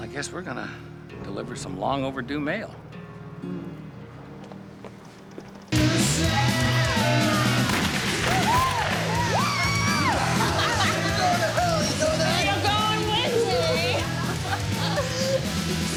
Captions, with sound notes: Well, I guess we're gonna deliver some long-overdue mail. (rock music playing) (gunshots) (cheering) Whoo! (laughing) You're going to hell, you know that? You're going with me!